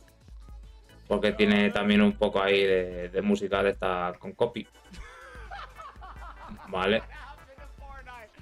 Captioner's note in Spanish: risas